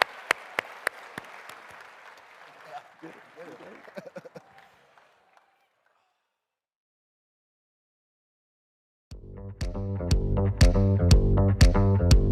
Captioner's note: cheering and applause